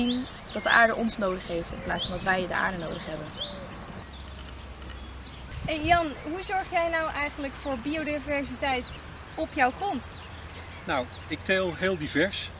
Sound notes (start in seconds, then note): 3.6 nature sounds